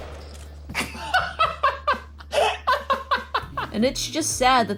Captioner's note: laughing